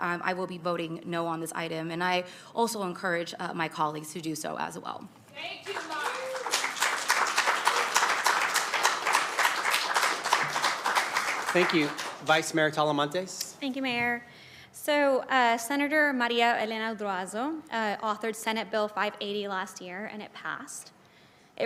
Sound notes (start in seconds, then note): 11.1 crowd Noise; 13.3 applause